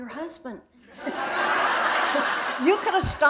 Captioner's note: laughter